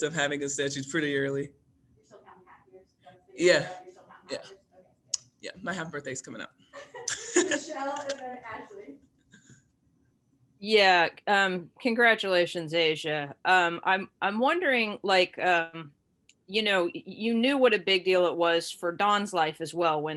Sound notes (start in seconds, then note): 6.8 both laughing